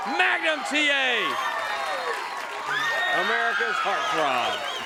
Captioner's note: crowd cheering